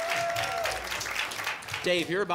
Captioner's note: applause and cheering cont